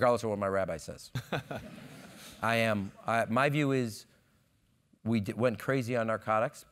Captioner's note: laugh